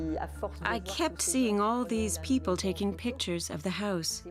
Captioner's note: speaking French